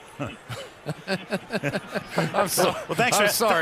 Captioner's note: laughter